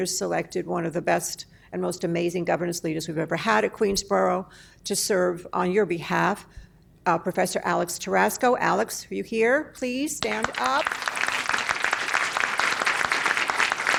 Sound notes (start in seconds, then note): 10.2 applause